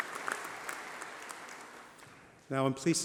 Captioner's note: applause